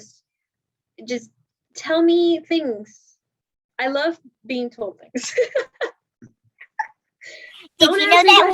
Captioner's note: laughs